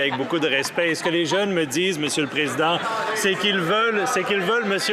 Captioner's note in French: voix de l'interprète